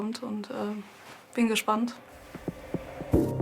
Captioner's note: speaks in German